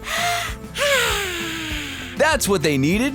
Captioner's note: hiccups; sighs